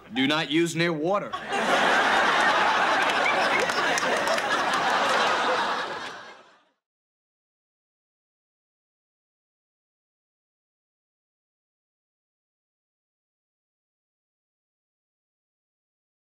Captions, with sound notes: - Do not use near water. (audience laughing)